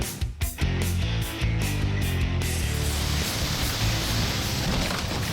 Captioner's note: water spray